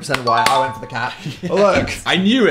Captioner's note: bell dings; Phil laughs